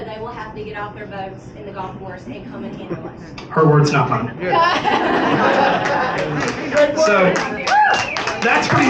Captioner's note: laughter